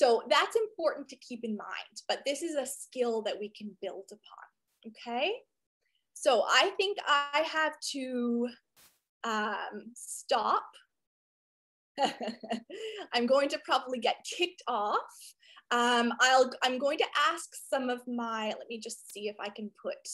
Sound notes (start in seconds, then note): 12.0 chuckles